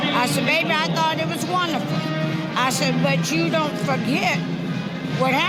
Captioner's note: none